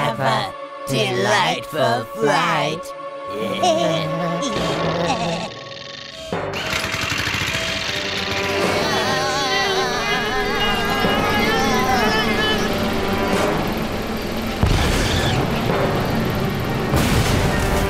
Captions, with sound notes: HAVE A...DELIGHTFUL FLIGHT. [ GIGGLING ] [ MOTOR ROARING ] [ Vibrating ] UUUHHHHHHHHHHHHHHH.